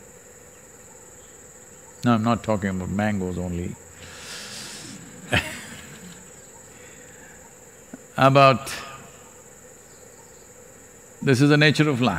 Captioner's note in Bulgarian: смее се